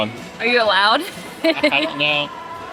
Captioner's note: laughs